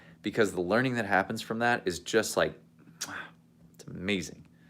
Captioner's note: kisses